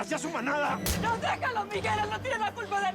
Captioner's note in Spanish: puñetazo